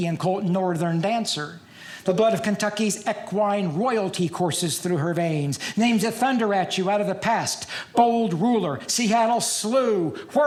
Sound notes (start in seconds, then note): none